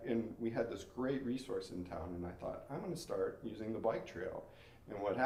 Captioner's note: none